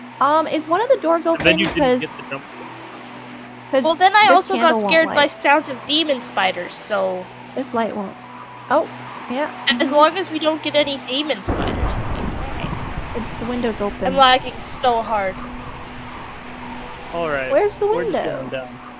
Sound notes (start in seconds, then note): 1.6 basement door unlocks